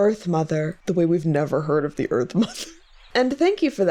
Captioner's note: laughs